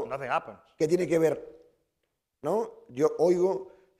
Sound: speaking spanish

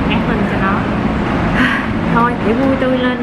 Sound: sigh

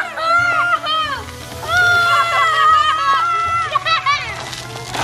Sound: loud cheers and laughter

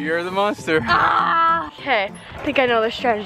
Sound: groaning

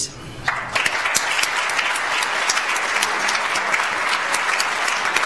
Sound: audience applauds

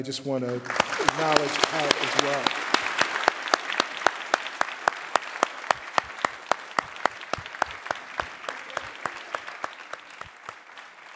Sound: applause

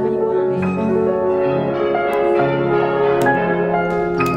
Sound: ambient restaurant sounds; vo in mandarin; church bells; crowd clapping

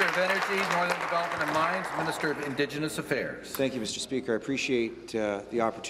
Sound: applause

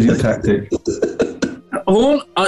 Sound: giggling

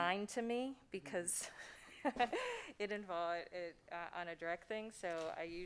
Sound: laughs

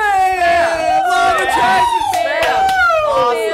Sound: cheering

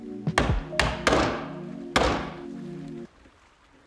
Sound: hammer knocking

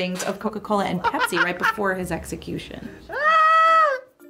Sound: laughing

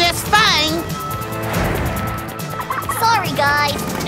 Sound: laughing

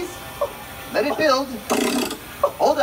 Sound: crank noises; Beaker coughing

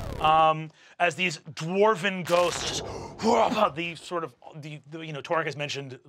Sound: grunting

